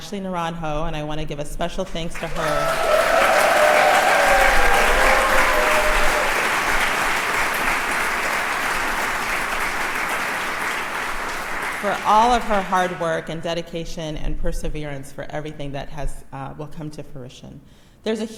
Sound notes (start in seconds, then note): 5.3 crowd applauds